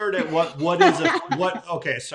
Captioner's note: laughing